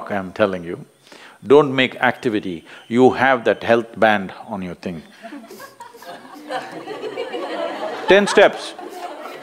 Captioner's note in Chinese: 笑聲